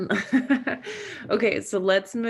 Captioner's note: Megan laughing